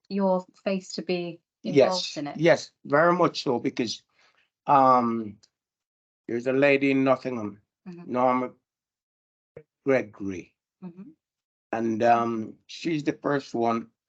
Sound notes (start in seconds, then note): none